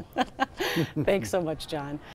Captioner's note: laughter